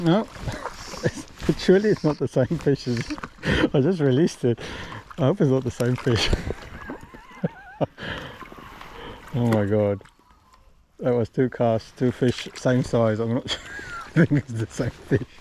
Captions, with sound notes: No. Actually, it's not the same fish as-- I just released it. I hope it's not the same fish. [LAUGHTER] Oh, my god. That was two casts, two fish, same size. I think it's the same fish.